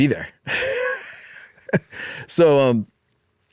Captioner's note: laughs